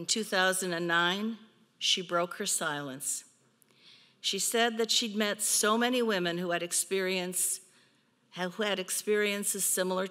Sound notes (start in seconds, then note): none